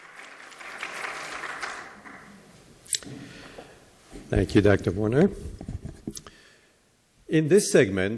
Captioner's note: applause